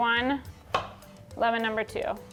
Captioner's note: knife clinking